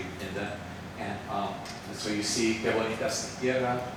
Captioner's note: speaks Spanish